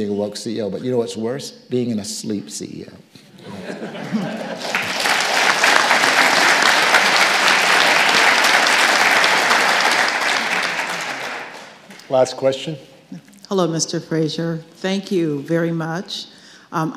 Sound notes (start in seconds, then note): 3.4 audience laughing; 3.8 audience applauding